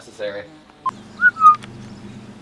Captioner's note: whistling noise